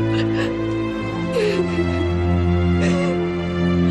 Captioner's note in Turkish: ağlıyor